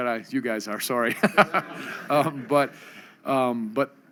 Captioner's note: laughs